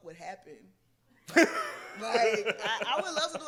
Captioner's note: laughs